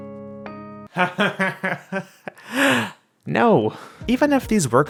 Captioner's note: laughs